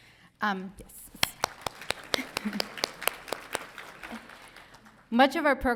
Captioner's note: crowd applauding